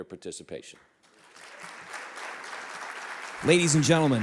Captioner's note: audience clapping